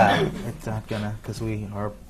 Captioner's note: laughter